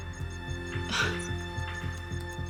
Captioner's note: gasps